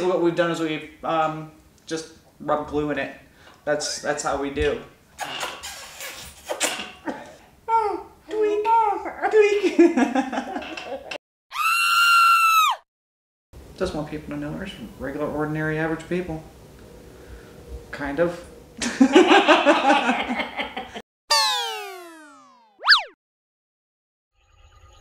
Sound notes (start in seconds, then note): 5.2 lips smacking; 10.4 laughs; 11.5 woman screams; 18.8 both laugh; 21.3 thrilling music